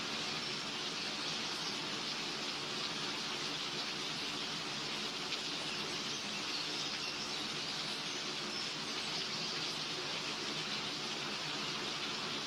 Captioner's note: rain